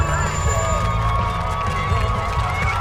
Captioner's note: applauding